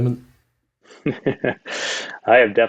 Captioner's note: Jeremy chuckles